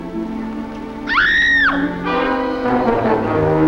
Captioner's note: scream